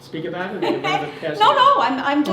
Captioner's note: laughter